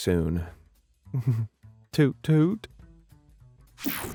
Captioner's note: chuckles